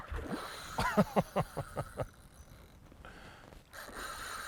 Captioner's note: laughs